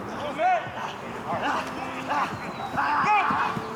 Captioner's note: player grunts